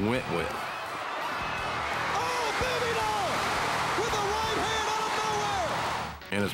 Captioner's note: applause